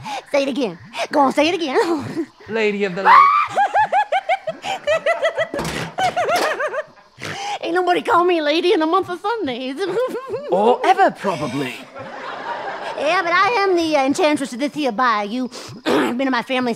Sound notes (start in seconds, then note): 0.0 obnoxious giggling; 3.0 screams and giggles; 5.5 armor clanging; 11.5 audience laughter; 15.8 clears throat